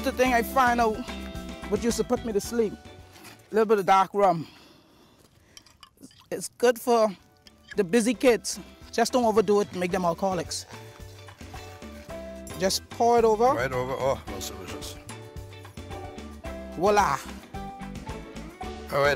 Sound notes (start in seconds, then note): 5.6 pouring; 7.4 scraping